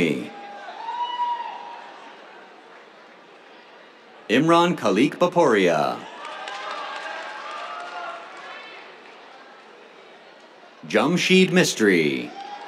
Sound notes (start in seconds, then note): 0.0 cheers; 5.5 cheers, applause; 11.8 cheers, applause